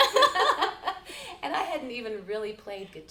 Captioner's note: laughing